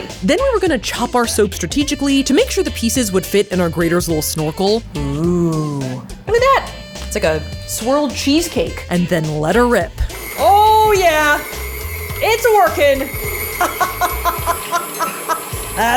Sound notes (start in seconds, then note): 10.0 machine whirling; 13.5 laughing